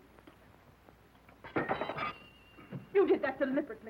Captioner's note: water glass clatters